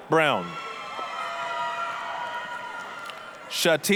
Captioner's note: applause, cheering